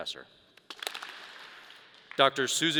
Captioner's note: audience applause